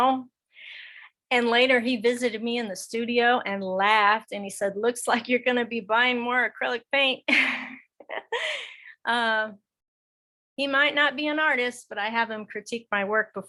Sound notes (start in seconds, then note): 7.2 laughing